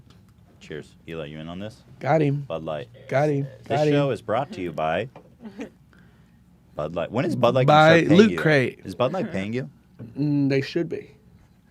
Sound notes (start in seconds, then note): 5.6 laughs